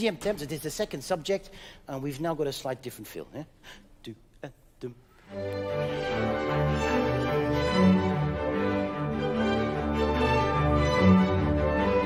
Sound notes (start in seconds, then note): 0.2 speaking in French; 4.3 mumbles melodically; 5.2 cheerful orchestral music